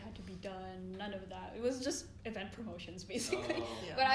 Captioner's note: laughs